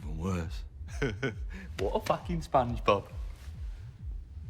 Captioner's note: chuckles